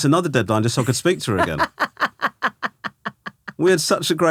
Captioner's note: laughing